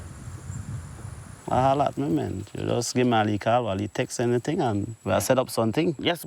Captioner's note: speaking foreign language